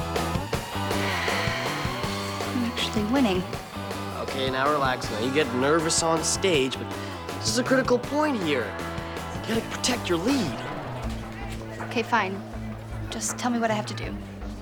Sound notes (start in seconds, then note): 0.5 exhales